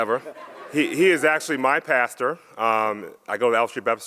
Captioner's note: audience laughs